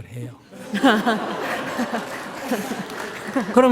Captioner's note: questioner/Audience Laughter